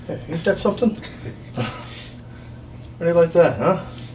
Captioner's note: patient laughs